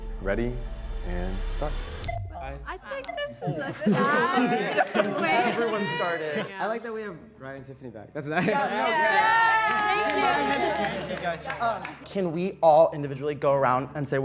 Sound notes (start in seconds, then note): 2.8 clock beeping; 3.6 group exclaims; 8.4 group cheers